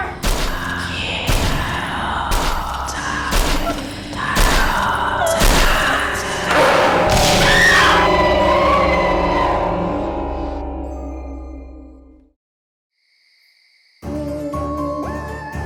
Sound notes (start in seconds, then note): 0.2 loud banging; 6.5 screaming